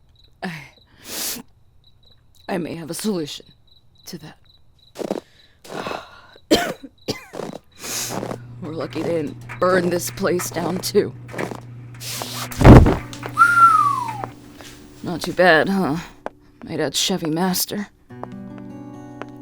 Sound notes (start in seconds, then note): 0.9 snifs; 5.6 Footsteps crunch through snow, Emily coughs; 7.1 sounds of walking and crying sniffles; 11.3 sounds of walking; 13.3 Albert whistles